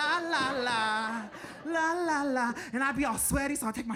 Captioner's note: audience laughing